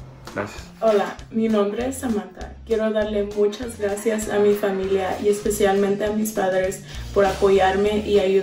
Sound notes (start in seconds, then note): 0.9 speaks in foreign language